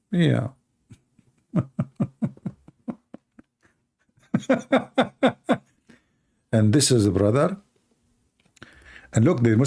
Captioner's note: Ketawa